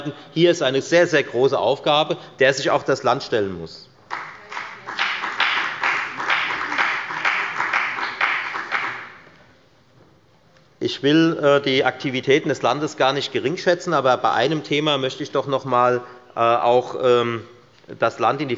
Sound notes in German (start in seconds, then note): 4.0 Beifall bei der FDP